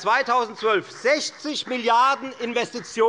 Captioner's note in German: Beifall bei Abgeordneten der FDP